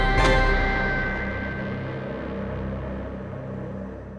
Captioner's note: wind howling